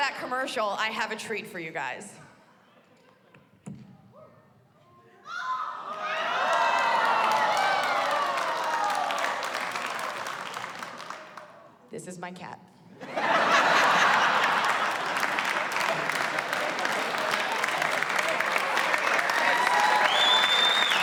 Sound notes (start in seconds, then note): 5.3 cheers and applause; 13.0 laughter; 15.9 cheers and applause